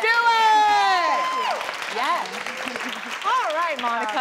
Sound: applause

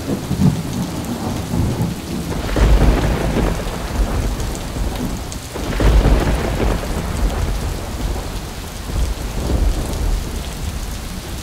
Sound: rain and thunder

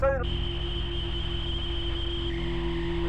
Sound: static

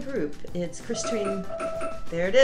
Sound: bell chiming

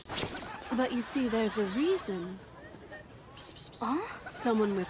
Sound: whisper

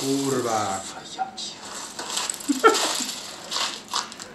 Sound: foreign language; laughs

